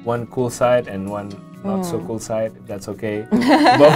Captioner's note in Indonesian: keduanya tertawa